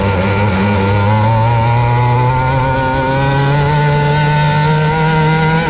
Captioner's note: engine revving loudly